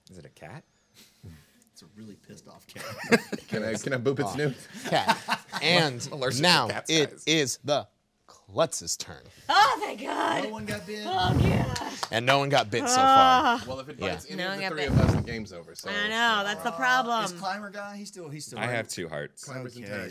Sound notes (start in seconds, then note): 4.3 group laughing